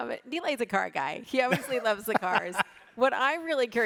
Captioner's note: laughing